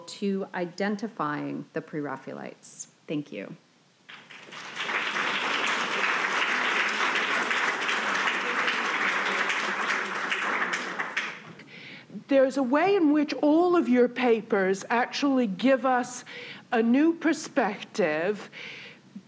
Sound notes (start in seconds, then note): 4.1 audience applauding